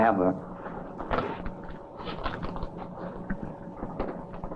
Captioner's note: papers rustling